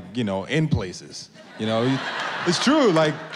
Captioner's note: laughter